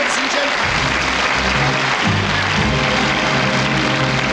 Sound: audience clapping

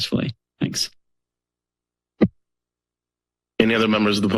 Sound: silence

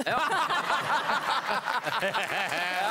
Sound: more laughs

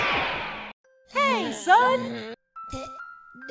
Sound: GOHAN groans

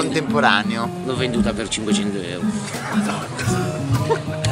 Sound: laughing

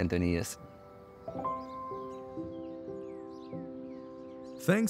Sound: birds chirping; soothing music

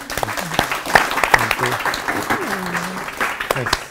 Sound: applause

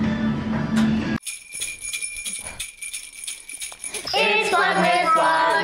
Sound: bells ringing

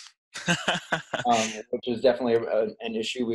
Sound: laughs

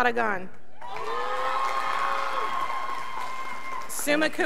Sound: scholars whopping

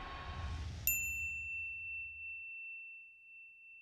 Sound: dinging

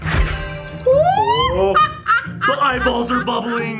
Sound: evil laughing

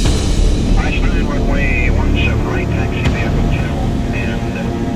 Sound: radio chatter

